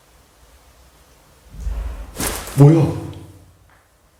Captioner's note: thud!